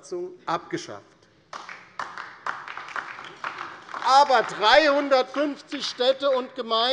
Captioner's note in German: Beifall DIE LINKE